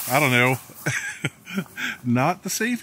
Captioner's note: laughing